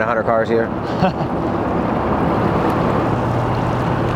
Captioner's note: chuckles